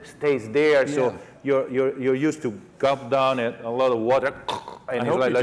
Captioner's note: choking